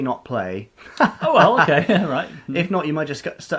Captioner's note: laughing